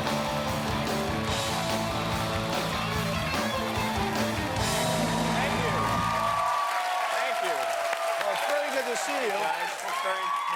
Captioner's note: cheers and applause